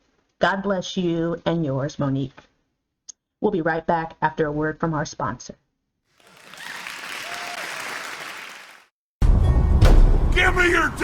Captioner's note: applause